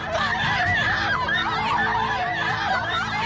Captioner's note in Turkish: Bağırışlar